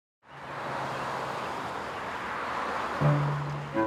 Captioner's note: traffic whooshing; bright music